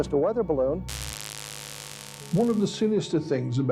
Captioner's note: static